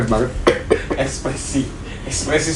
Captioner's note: cough